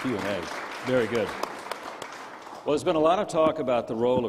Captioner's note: crowd applauding